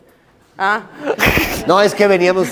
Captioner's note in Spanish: Risas